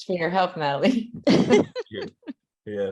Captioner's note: laughter